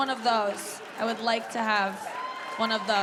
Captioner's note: audience cheering